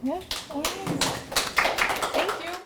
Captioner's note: applause